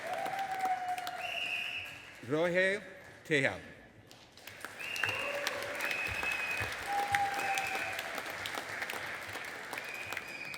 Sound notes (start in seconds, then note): 0.0 audience applauding and cheering; 4.4 audience applauding and cheering